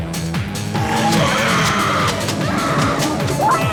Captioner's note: screaming